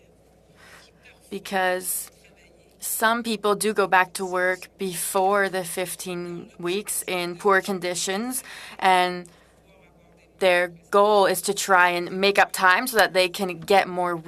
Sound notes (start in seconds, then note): 2.1 speaking french